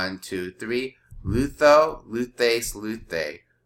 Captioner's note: speaking greek